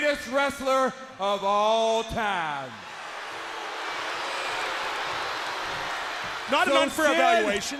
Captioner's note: crowd cheering